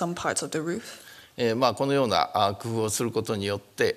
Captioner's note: speaking japanese